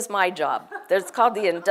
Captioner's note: laugh